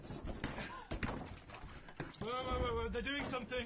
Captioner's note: gasping; slimy squelching